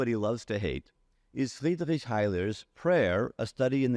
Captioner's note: faintly speaking